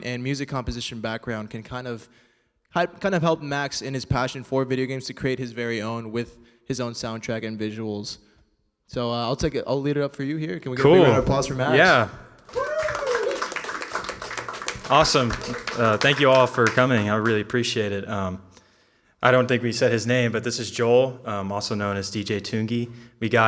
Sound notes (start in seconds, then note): 11.5 audience cheering & applauding